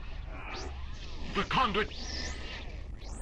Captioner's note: static